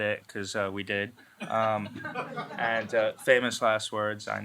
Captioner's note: laughter